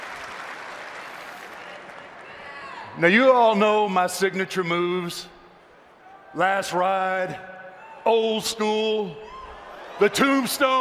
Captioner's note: cheers and applause